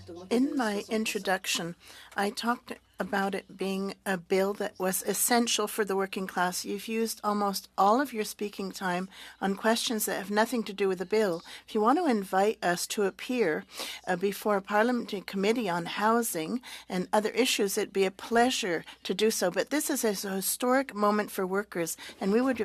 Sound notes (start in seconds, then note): 7.0 speaking French